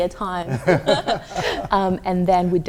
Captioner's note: laughing